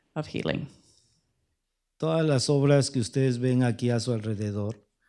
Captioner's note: speaking spanish